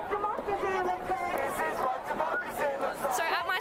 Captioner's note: crowd